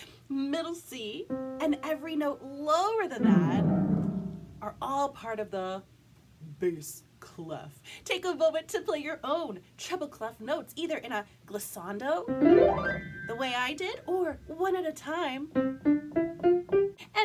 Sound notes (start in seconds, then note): 3.1 🎵 plays piano; 6.0 uses low voice; 12.2 🎵 plays piano; 15.8 🎵 plays piano